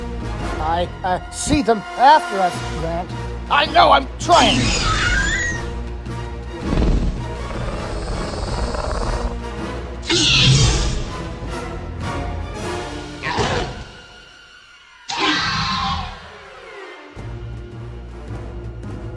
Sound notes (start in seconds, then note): 4.8 velociraptor sounds; 8.6 dramatic music